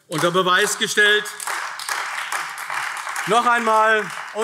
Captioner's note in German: Beifall AfD